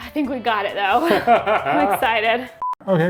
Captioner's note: laughs